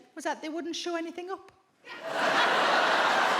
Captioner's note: audience laughs